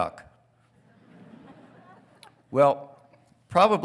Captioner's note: congregation laughing